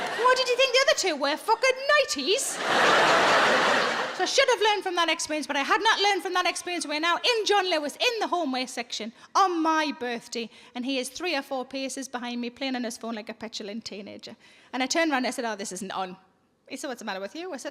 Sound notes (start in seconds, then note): 2.4 audience laughing